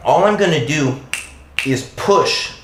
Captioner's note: snaps twice